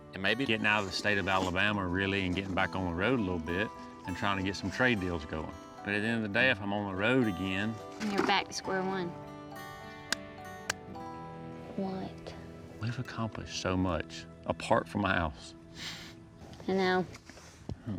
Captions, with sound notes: AND MAYBE GETTIN' OUT OF THE STATE OF ALABAMA REALLY... AND GETTIN' BACK ON THE ROAD A LIL' BIT... AND TRYING TO GET SOME TRADE DEALS GOING. BUT AT THE END OF THE DAY, IF I'M ON THE ROAD AGAIN... THEN YOU'RE BACK TO SQUARE ONE. [TAPS FISTS] WHAT? WE'VE ACCOMPLISHED SO MUCH APART FROM THE HOUSE. I KNOW.